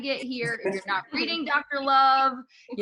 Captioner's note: laughing